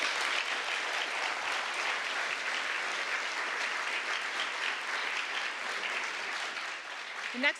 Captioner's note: applause